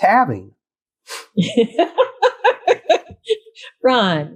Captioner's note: laughter